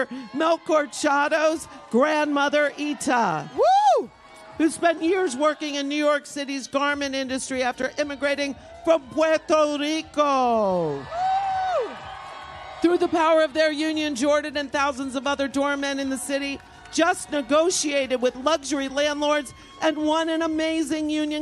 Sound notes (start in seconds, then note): 16.2 cheers and applause